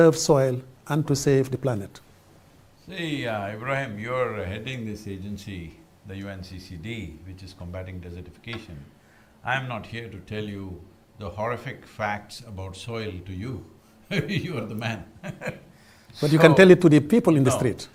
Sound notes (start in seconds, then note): 14.1 laughs